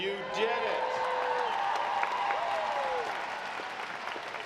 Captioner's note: audience applauding